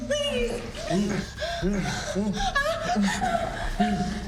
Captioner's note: Michelle crying